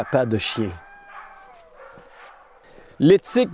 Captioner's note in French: aboiements